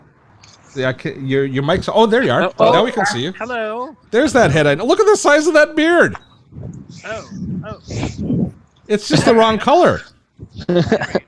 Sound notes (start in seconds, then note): 6.5 air whooshes; 10.4 laughs